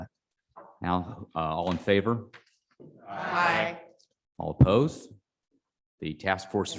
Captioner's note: chorus of ayes